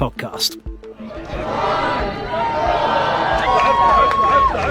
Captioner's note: upbeat music; crowd cheering